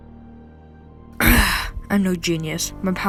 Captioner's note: Max groans